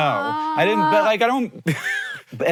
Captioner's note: chuckles